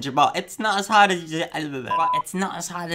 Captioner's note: stutters